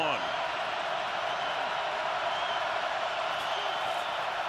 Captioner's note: crowd cheering